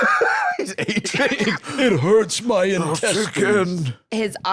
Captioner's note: laughs